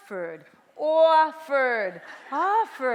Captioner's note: clear dictation; BRONX ACCENt; clear dictation; bronx accent